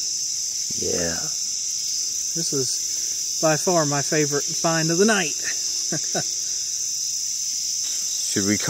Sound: chuckles

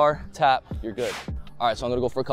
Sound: whoosh

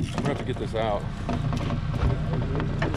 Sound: fish thrashing

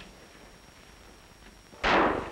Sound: gunshots

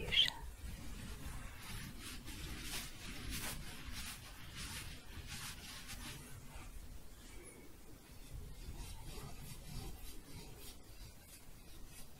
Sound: louder, then softer scratching

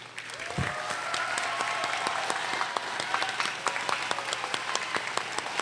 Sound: audience cheers and applauds

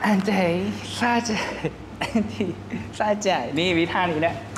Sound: humming and showing his moves

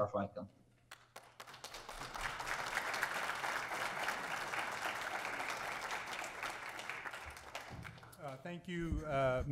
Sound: applause

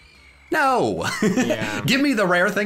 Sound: laughs

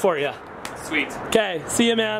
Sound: hands slap

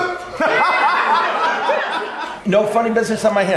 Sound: laughing

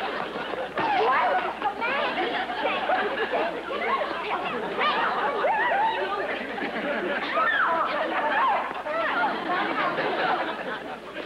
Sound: all yelling

